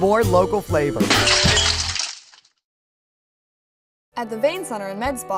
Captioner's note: glass breaking